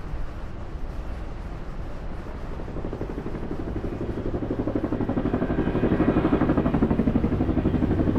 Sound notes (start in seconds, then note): 0.0 helicopter whirring